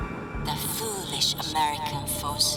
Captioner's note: none